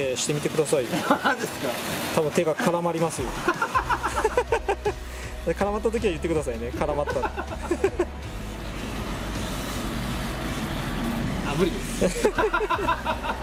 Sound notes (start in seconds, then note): 3.3 laughs; 6.7 laughs; 12.0 laughs